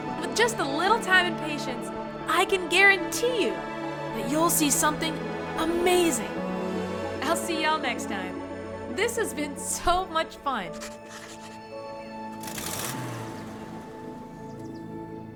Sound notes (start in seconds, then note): 10.7 chalk scribbles; 12.6 engine revs